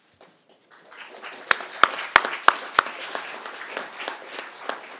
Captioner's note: crowd applauding